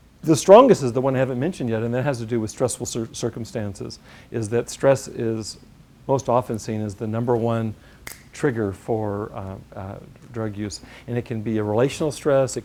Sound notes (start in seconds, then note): 8.0 snap